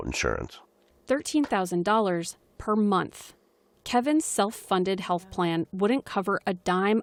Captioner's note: voice-over